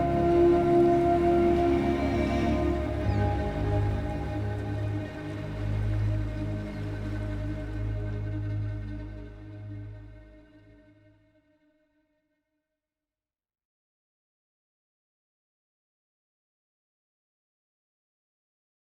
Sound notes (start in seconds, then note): 0.1 soft bright music continues; 9.4 audio fades to silence